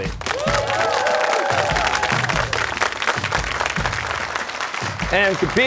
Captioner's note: cheers and applause